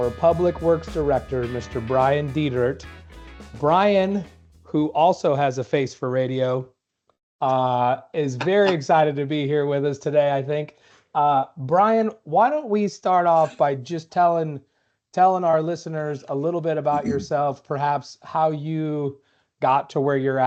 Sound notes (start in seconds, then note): 8.3 laughter